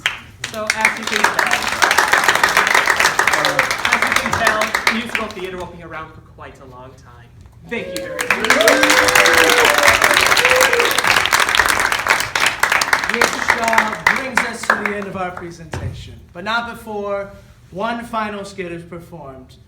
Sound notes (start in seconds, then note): 1.6 applause; 9.1 applause